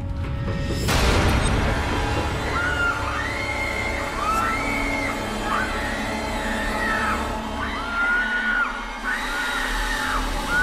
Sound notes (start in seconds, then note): 1.8 Lindsay and Ryder screaming; 2.1 ominous music